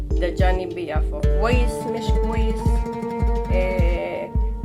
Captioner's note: in Arabic